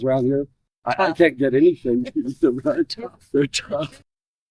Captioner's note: laughter